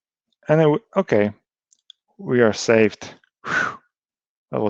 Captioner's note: sighs